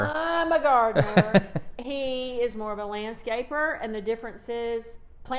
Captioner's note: laughs